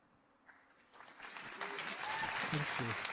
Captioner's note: applause